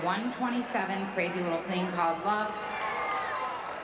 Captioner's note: cheering